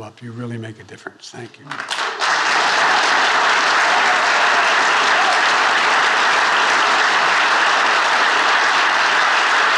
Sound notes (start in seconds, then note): 1.7 attendees applauding